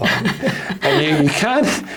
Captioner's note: panellists chuckle